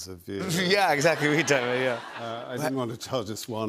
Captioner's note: laughter